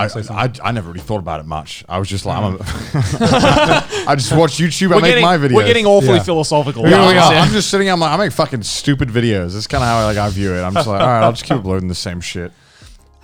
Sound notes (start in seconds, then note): 2.4 all laughing